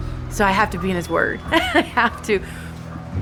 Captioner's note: laughs